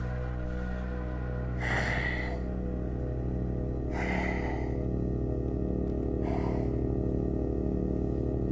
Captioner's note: Young Wanderer breathing